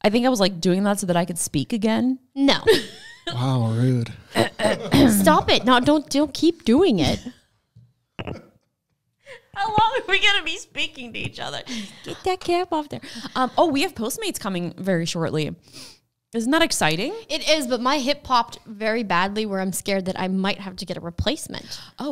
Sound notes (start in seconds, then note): 4.4 clears throat